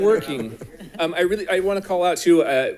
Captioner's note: board members laughing